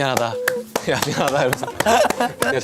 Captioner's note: haha